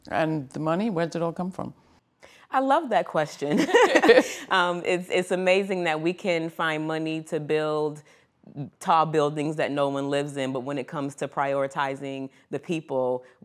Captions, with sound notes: - And the money? Where'd it all come from? - I love that question. (both laugh) It's amazing that we can find money to build tall buildings that no one lives in, but, when it comes to prioritizing the people,